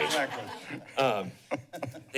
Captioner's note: laughs